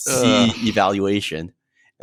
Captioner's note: sighs